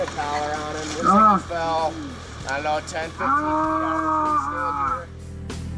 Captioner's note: groaning